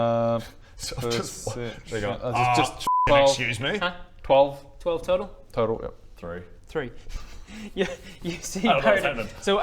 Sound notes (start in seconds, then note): 7.2 laughs